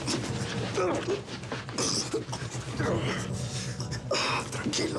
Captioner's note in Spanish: ruido del forcejeo